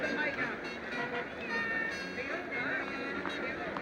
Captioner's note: chatter